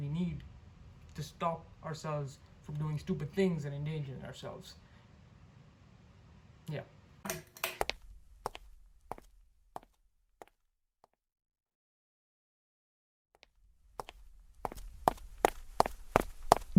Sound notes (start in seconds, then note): 9.0 footsteps; 14.5 footsteps again